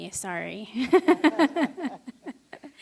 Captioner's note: chuckle